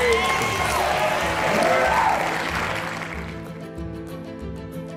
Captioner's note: audience applauds; inspirational music